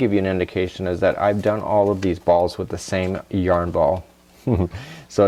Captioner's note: giggle